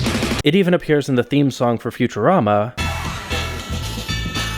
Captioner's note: bang